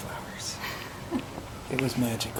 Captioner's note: laughing